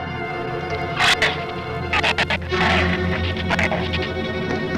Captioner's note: shrew snarls